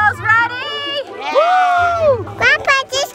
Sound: cheers

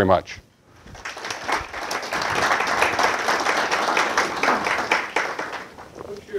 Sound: applause

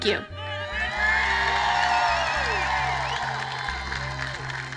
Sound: large roaring crowd cheers

